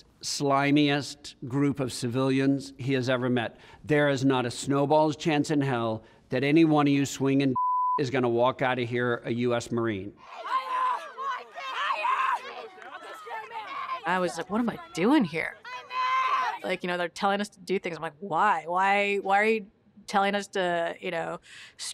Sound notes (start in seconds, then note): 7.5 beep